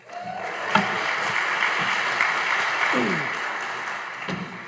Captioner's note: audience applauding